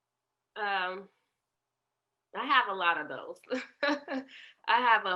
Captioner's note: laughter